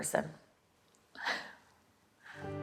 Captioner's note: laughs